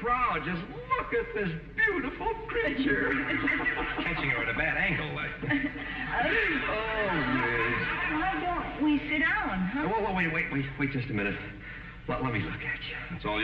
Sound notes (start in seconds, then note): 2.4 chuckles